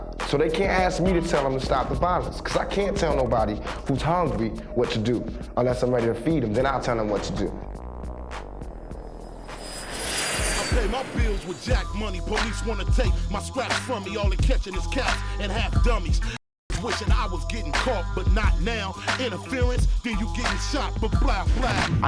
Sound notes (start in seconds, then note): 9.1 jet engine roars